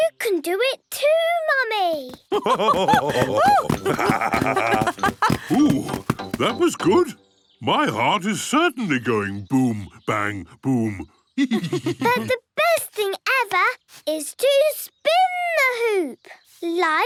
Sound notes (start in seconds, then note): 2.3 both laugh; 11.4 laughs